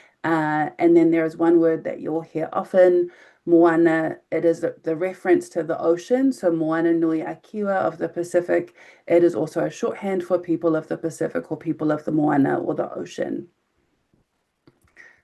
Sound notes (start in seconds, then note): 6.5 speaking in foreign language